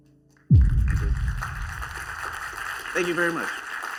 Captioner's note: applause